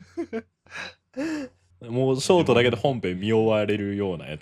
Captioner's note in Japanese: 息をのむ音